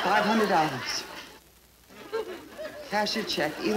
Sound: audience laughing

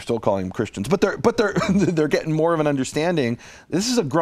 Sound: laughs

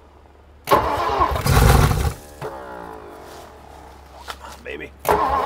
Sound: engine struggling to start

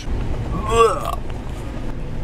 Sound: throwing up

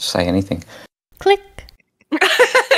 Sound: click; laughing

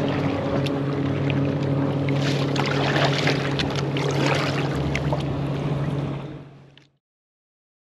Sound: water splashing

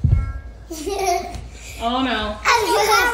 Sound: giggling

